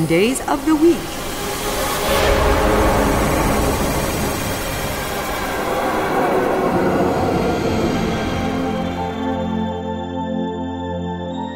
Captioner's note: machine noises